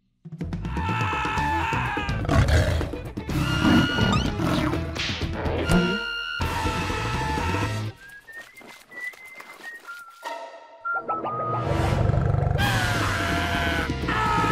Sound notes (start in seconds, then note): 0.6 screaming; 1.8 snarling; 7.4 whistling; 11.9 growling; 12.6 screaming